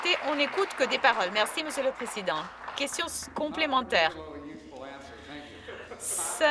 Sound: some Applause

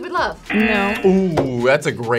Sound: buzzer razzing

